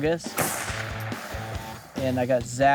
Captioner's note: gunshot blasting